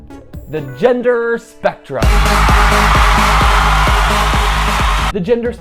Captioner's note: applause and rave music